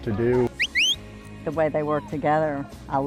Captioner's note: whistling